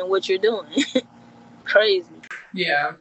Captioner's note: chuckling